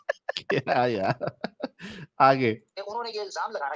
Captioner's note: laughter